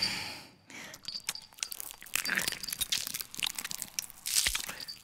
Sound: mouth crunches

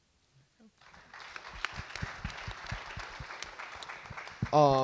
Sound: audience clap

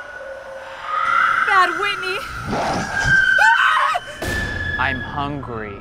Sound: screams

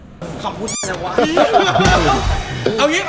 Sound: laughs

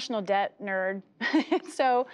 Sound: laughter

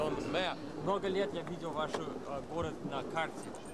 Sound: russian speech

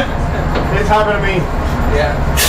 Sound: laughs

